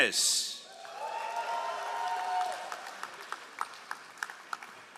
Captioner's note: all applauding